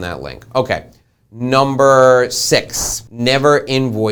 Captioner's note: whooshing